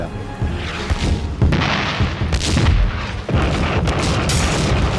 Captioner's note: explosions booming